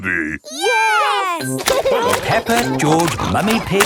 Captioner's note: laughing